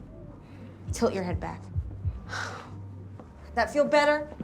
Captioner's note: sigh